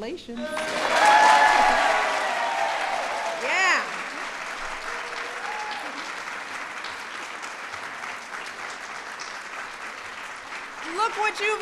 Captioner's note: applause